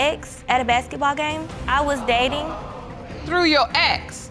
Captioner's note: audience exclaim